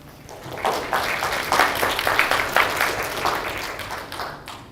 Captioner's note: students applaud